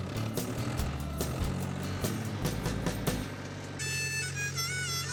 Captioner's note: tractor revving; playing harmonica